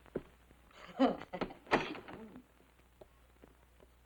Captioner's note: Dolly laughing